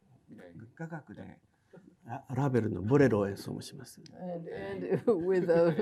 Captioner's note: speaking in foreign language